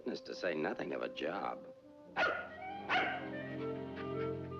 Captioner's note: dog barking